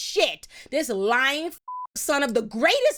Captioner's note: beep